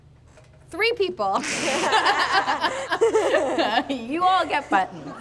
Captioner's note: laughs